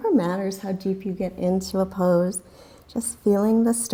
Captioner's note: deep breathing sounds